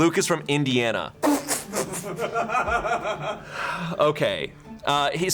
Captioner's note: crew members snickering and laughing